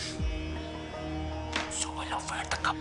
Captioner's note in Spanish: En voz baja